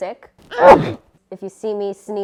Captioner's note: aggressive sneeze